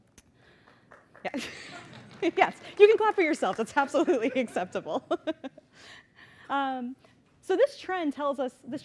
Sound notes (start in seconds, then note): 0.6 clapping; 6.6 laughs